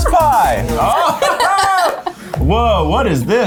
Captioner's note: students laugh